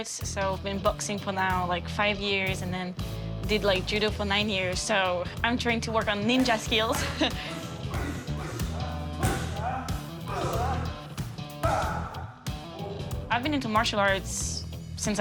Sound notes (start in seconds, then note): 6.8 grunting loudly; 7.3 upbeat music